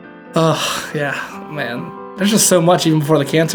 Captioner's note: sighs